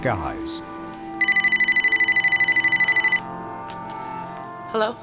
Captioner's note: phone ringing